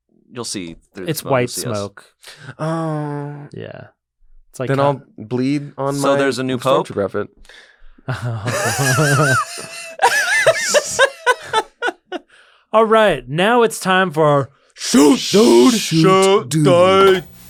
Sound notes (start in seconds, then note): 8.0 laughter